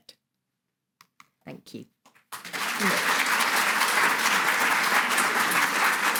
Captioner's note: audience applauding